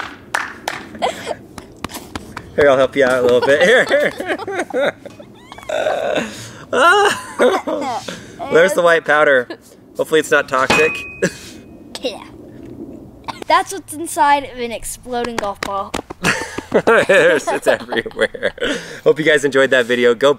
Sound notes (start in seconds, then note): 0.2 claps; 4.2 both laugh; 11.2 coughs